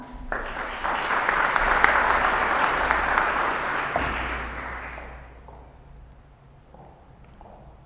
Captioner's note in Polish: oklaski